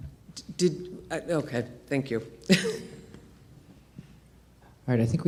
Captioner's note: laughs